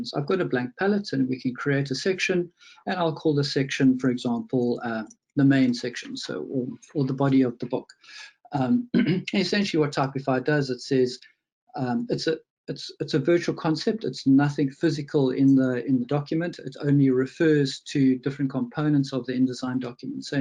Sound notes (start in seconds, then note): 8.7 clears throat